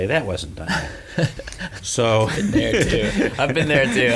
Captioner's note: laughs